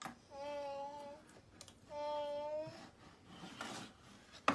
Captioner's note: babbles